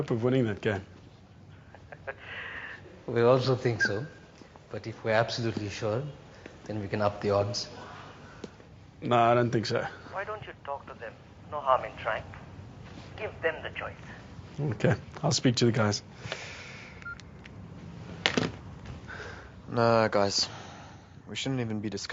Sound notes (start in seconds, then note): 1.6 laughs; 17.0 beeps; 18.3 clatters